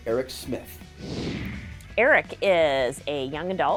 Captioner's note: computer whooshing